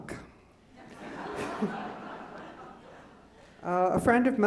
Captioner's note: laughing